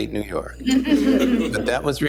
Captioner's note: laughter